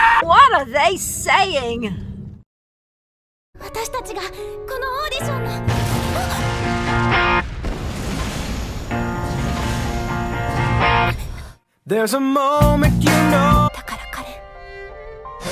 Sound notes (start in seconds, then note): 0.0 Screams in KuroMaya; 5.7 sudden explosion